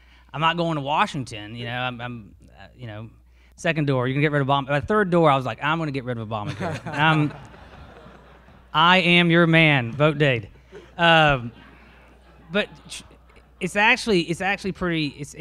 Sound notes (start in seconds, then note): 6.4 all laugh